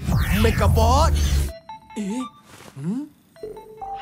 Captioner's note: ringtone chiming